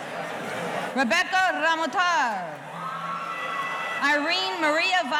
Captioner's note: audience cheering